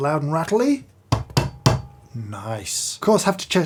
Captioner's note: knock box thuds